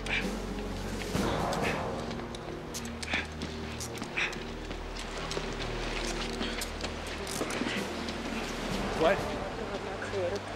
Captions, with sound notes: [panting] YAHWEH, YAHWEH, YAHWEH, WHAT? OUR GOD AND OUR CREATOR PROTECT US.